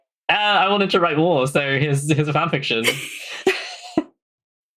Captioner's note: laughs